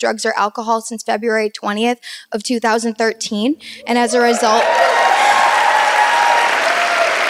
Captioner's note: audience erupts in applause